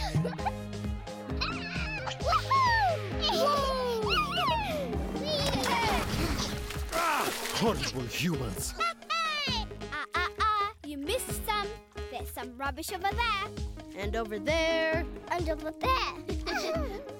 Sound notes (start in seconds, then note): 3.3 laughter; 16.4 giggling